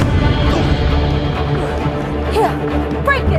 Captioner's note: grunts